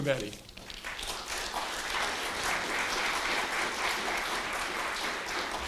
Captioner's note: applause